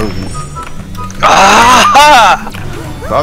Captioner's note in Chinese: 得第一的聲音